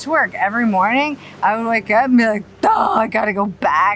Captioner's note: yells